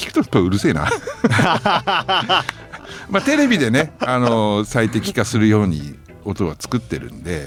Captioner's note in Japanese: 笑い